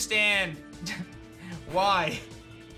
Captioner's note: chuckles